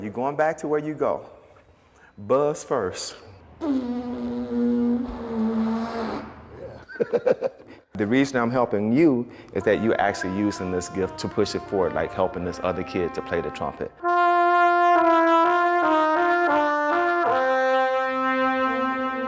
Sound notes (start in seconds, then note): 6.6 laughs; 14.3 trumpet music